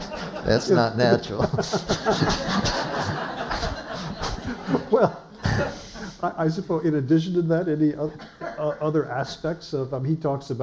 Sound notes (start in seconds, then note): 1.2 laughter